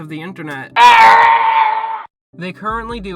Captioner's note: Lego Yoda death sound